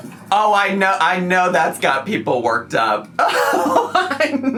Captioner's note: laughs